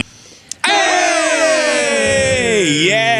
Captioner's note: cheering